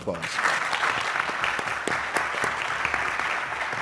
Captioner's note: applause